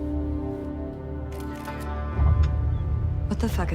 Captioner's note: camera shutter clicking